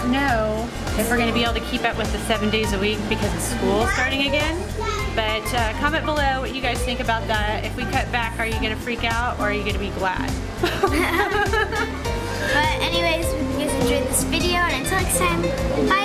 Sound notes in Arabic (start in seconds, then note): 10.6 وكلاهما يضحك